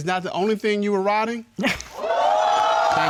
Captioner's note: chuckles; audience cheering